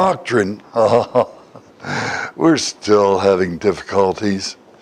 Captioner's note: Смех